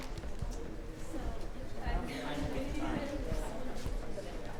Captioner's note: people chatting